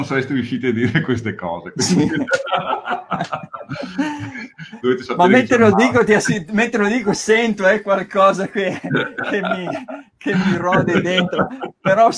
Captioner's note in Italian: Risate